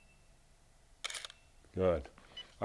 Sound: camera shutter clicks

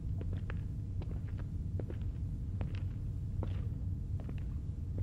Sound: shoes pacing

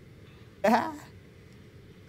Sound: laugh

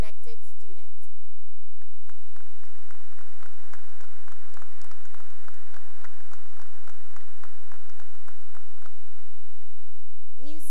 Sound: applause

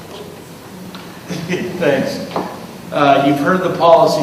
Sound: laughs

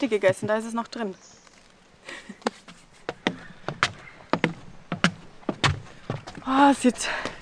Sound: laughs

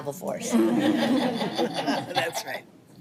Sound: all chuckle

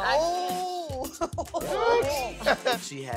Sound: crowd cheers

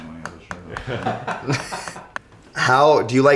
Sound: all laugh

